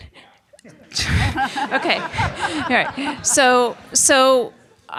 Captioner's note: laughs